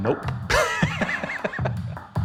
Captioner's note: laughs